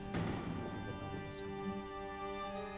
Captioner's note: door opens; indistinct chatter